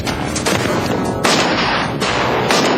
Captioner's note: gunshot